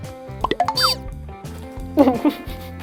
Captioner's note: honking noise